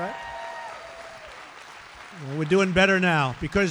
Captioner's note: applause